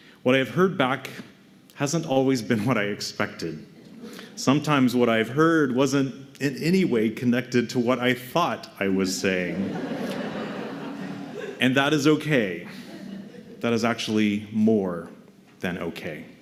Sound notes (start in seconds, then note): 9.5 laughter